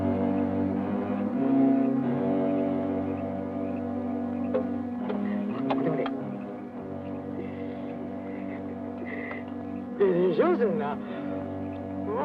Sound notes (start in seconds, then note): 6.1 soldiers speak Japanese